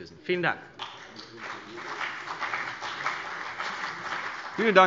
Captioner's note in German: Beifall CDU